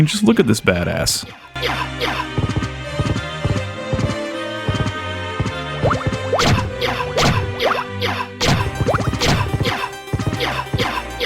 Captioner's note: Axe Lord gameplay sounds